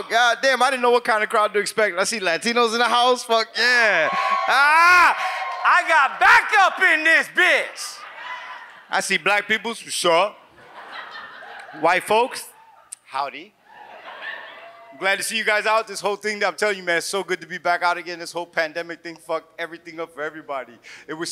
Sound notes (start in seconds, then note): 10.6 audience laughs; 13.7 audience laughs